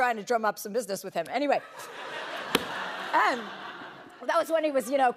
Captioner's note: laughter